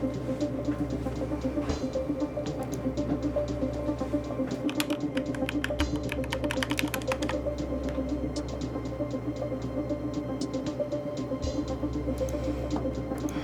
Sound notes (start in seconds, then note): none